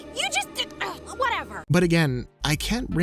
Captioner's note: stammering